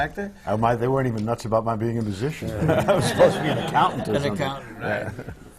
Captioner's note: laughter